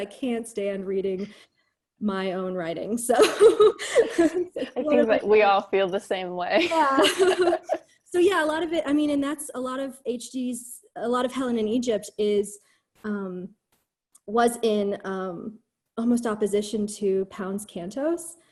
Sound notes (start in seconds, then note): 3.3 laughs; 6.6 laughter